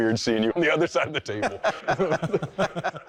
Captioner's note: laughter